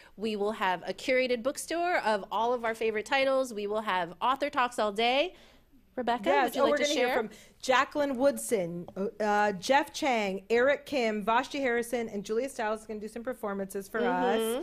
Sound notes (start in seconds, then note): none